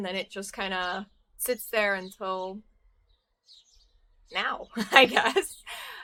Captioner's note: laughs